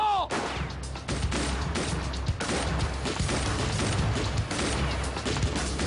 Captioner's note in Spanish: Disparos